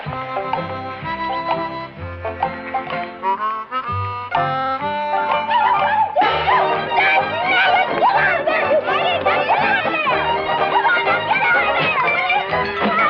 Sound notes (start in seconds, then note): 0.2 gentle Western music; 5.3 woman yelling